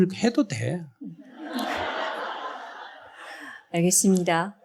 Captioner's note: audience Laughter